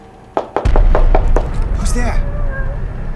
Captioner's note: knock on the door; woman humming